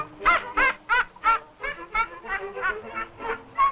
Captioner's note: parrot squawking mockingly; parrot laughing